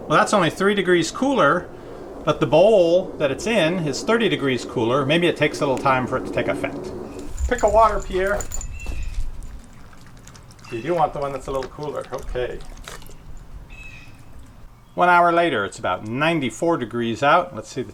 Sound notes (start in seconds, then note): 8.8 dog slurping